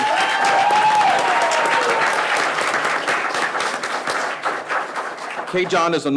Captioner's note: people cheering; people clapping